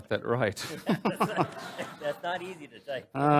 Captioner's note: laughs